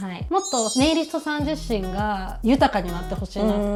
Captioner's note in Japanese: none